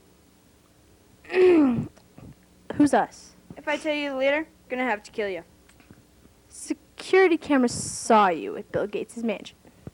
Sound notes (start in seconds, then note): 1.2 clears throat